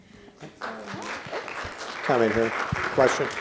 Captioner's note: applause